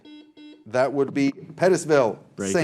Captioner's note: buzzer buzzing